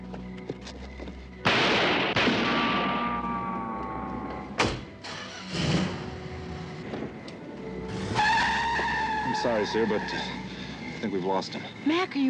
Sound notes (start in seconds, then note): 5.9 araba motoru başlatma; 7.7 Lastikler çığlık atıyor